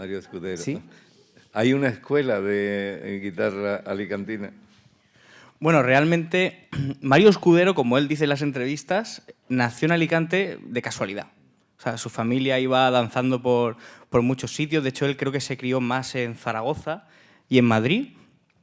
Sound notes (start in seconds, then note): 1.7 speaking in Spanish; 14.4 speaking in Spanish